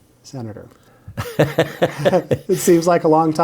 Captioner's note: laughing